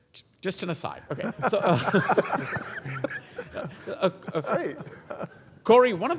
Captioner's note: laugh